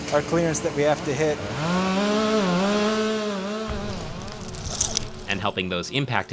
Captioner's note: chainsaw buzzing